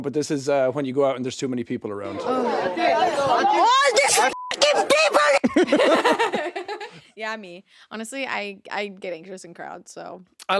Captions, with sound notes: but this is when you go out and there's too many people around. (crowd clamoring) - All these (beeps) people! (Jacksepticeye and laughing) - Yeah, me, honestly, I get anxious in crowds, so.